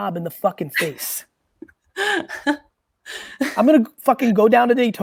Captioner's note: laughs